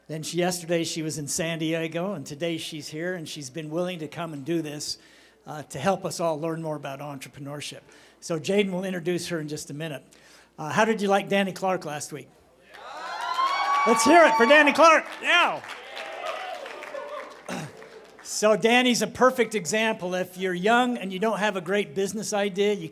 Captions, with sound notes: Then yesterday she was in San Diego, and today, she's here. And she's been willing to come and do this to help us all learn more about entrepreneurship. So Jayden will introduce her in just a minute. How did you like Danny Clark last week? [CHEERING] Let's hear it for Danny Clark. Yeah! [APPLAUSE] So Danny's a perfect example. If you're young and you don't have a great business idea,